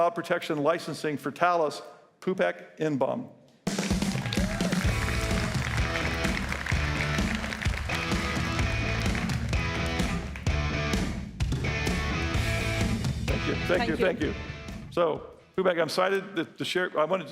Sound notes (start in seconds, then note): 5.3 applause